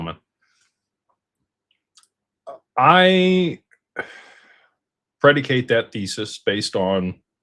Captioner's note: sighs